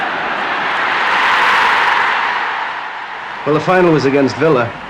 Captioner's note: crowd roaring